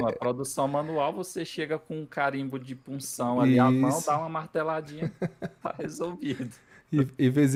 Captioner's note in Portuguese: risadas